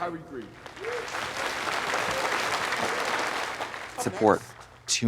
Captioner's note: crowd applauding